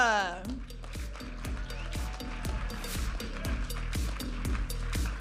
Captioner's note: audience applauding and cheering; upbeat music